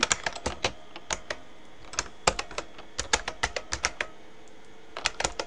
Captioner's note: typing